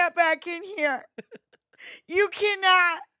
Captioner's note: laughs